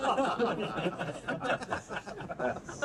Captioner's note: crowd laughs